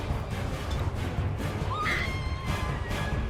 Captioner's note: screaming